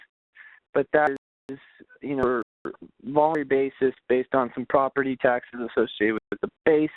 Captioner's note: voice distorting